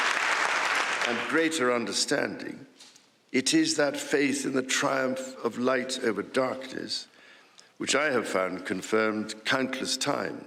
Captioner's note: applause